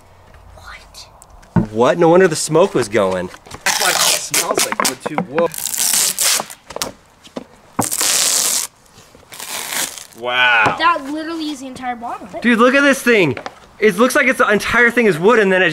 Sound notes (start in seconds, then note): 3.9 ripping noise